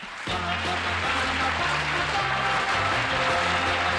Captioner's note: applause; theme music